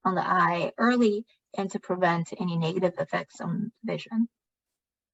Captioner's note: speaking chinese